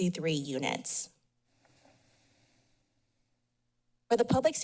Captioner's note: pause